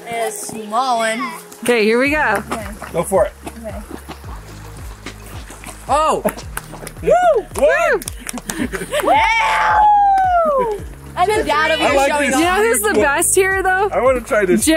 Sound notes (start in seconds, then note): 4.0 water running; 6.9 kids cheering and clapping